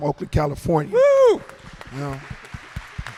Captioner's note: cheers and applause